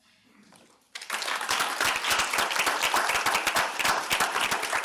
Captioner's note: audience applauding